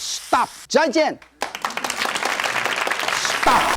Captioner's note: audience applause